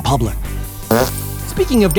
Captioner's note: farting